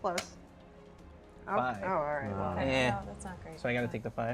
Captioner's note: disappointed noises from all